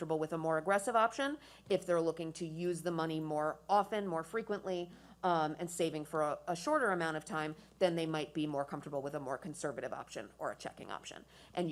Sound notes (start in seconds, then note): none